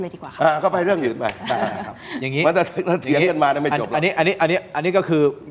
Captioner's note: laughter